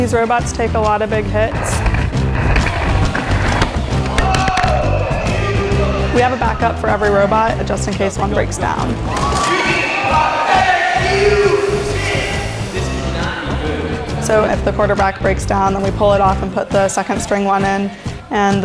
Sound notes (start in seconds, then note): 1.6 robots crashing; 9.8 yelling